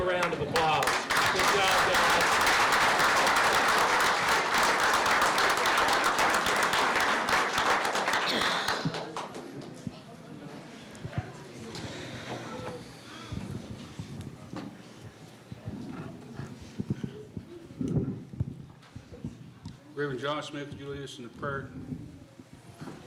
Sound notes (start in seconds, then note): 1.8 applause